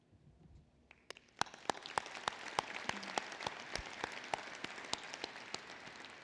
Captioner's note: applause